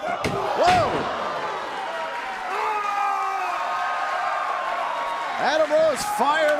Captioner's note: cheers & applause